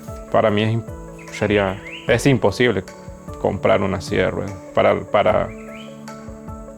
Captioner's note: Levi's father speaking in a foreign language